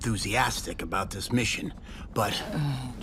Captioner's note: groans